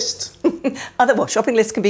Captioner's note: laughs